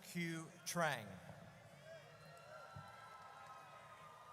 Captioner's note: audience cheers